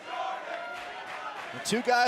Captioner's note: fans chanting